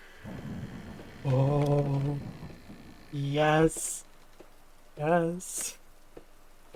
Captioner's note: door opening sound